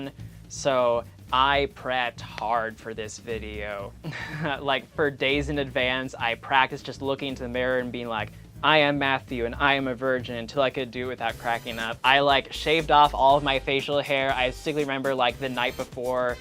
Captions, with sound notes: so I prepped HARD for this video. (laughs) Like for days in advance I practiced just looking into the mirror and being like, "I am Matthew, and I am a virgin," until I could do it without cracking up. I like shaved off all of my facial hair. I distinctly remember like the night before just like